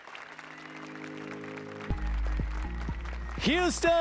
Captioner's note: applause and cheers